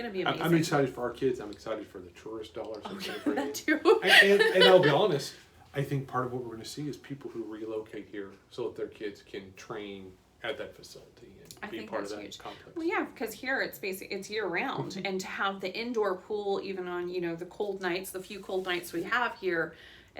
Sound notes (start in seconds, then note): 2.8 laughs